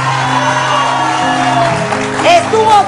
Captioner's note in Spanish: aplausos